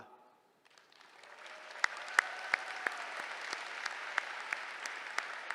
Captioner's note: applause